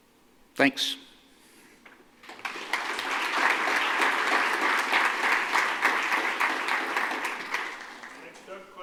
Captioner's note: applause